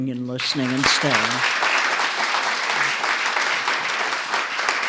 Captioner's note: applause